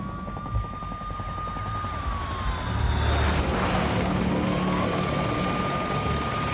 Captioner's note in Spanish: Sonido de las sirenas